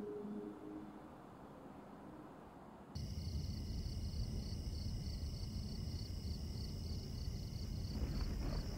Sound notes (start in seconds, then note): 2.9 crickets chirping